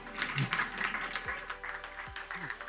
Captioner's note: applause